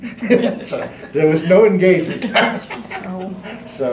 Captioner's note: laughter